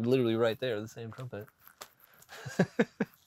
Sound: chuckling

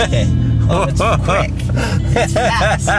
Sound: laughing

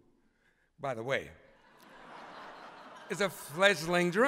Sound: laughter

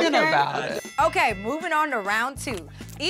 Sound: bell rings

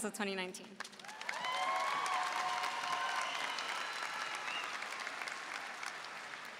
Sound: audience cheering and applauding

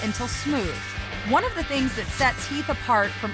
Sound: sanding sound

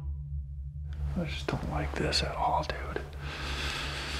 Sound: whispering

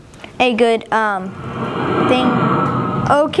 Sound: rocket sound

